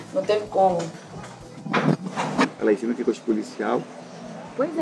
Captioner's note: speaks foreign language